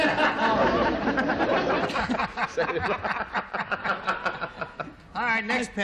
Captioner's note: laughing